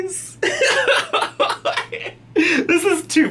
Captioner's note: laughs